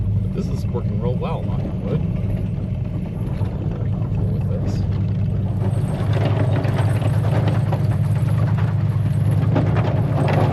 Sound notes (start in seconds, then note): 5.4 chains rattle